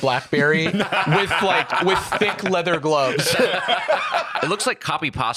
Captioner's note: all laughing